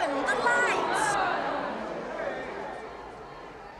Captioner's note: murmuring and protesting